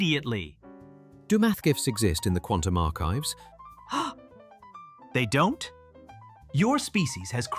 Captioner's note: gasps